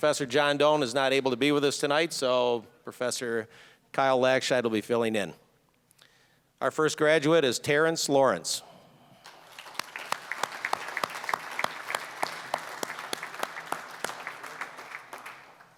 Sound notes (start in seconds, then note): 9.2 applause